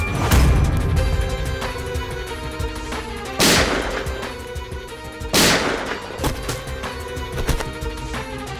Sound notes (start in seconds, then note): 5.3 Gun shots; 6.3 Thud on ground